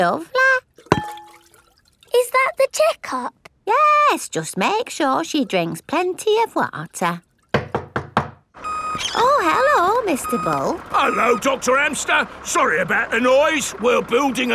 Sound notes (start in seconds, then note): 7.5 knocking at door